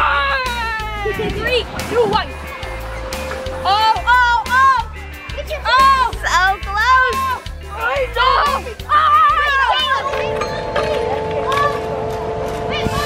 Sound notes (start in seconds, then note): 7.7 boy yelling; 10.0 chiming